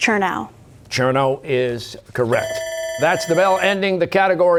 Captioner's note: bell ringing